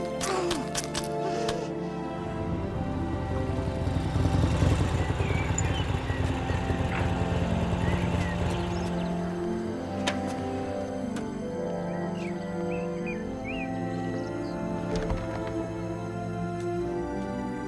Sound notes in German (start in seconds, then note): 0.0 Knirschen; 0.2 grunzt frustriert; 3.7 Motorradmotor rumpelt; 8.0 Vögel zwitschern; 9.6 ätherische Musik; 12.3 Vögel zwitschern; 14.8 Tür geht auf